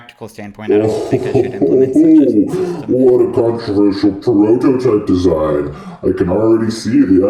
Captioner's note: laughs in Evil